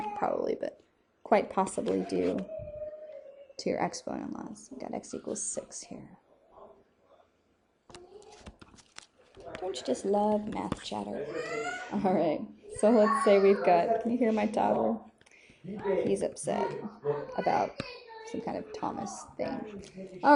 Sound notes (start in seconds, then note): 8.1 child and man clamoring; 11.2 child yelling